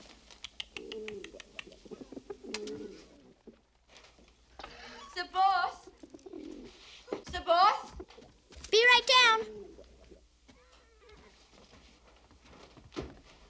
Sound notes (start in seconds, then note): 0.4 makes clicking noise